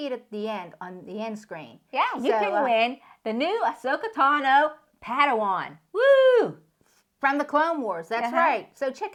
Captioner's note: wooo